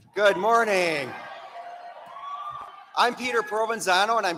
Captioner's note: applause